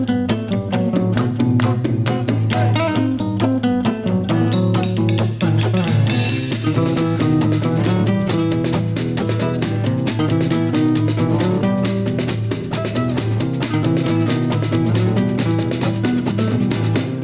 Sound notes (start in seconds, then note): none